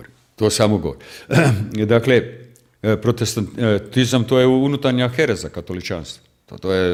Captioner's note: coughs